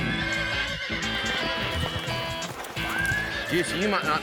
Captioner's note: horse neighing